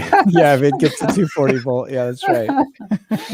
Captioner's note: laughing